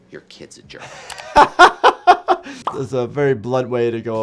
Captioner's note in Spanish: se ríe